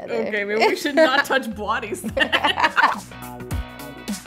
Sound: laughs; upbeat music

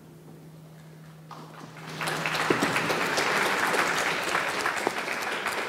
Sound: audience clapping

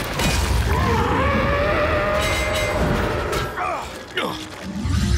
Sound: roaring

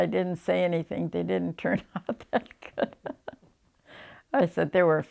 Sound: laughs

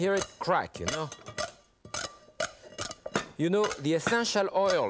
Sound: saucepan clacking

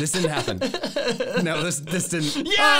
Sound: laughing

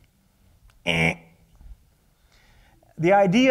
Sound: imitates a buzzer noise

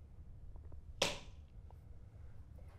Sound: clapperboard

